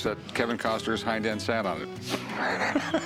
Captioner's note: laughs